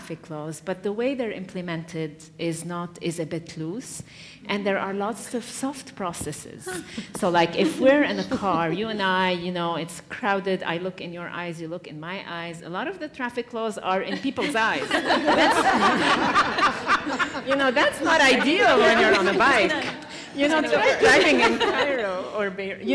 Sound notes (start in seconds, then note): 16.8 laugh